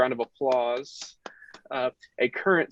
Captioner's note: claps